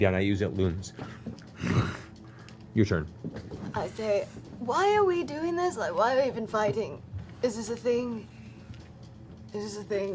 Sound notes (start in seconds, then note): 1.5 grunts